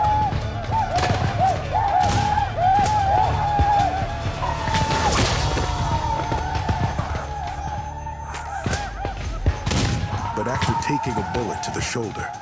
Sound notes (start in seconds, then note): 0.3 gunshots, whooping; 5.2 bullet strikes him; 9.4 gunshot